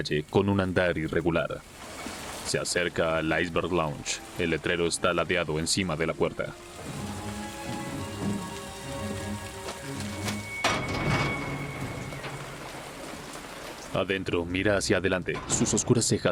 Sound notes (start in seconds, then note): 5.2 música de intriga; 8.8 crujido de puerta